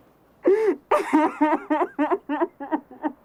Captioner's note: sobs